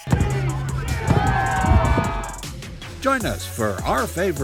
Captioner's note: crowd Cheers!